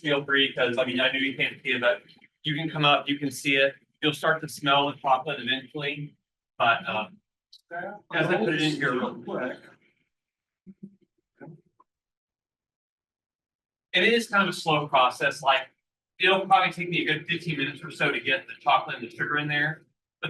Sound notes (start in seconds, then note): 8.2 participants clamoring